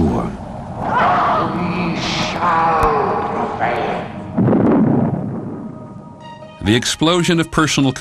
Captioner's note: explosion sound